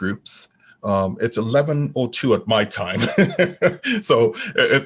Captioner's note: laughing